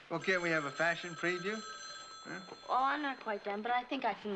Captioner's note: phone Ringing